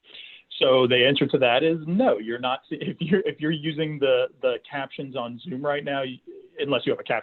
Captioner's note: chuckles